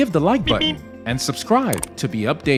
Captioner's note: beep BEEP ROADRUNNER SOUND EFFECT